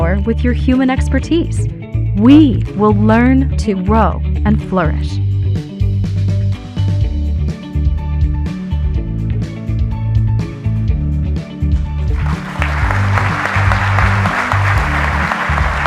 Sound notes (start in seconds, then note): 5.7 upbeat music; 12.1 audience applauding